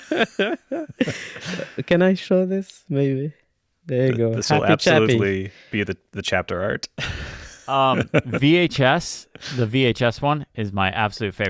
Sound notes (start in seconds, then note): 0.0 both laughing